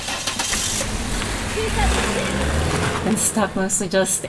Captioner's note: car screeches off